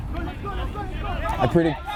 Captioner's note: players shouting